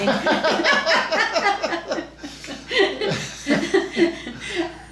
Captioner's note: both laughing